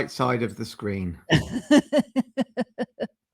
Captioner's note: laughter